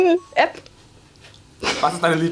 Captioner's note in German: beide lachen